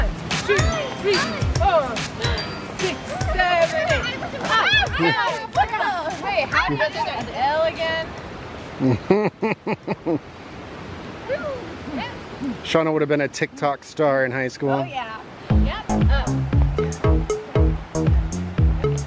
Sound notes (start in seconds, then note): 8.8 laughs; 15.5 bouncy music